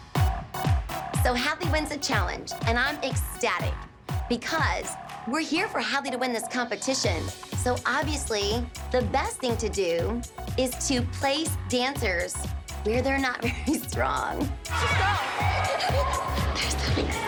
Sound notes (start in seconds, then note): 13.1 laughs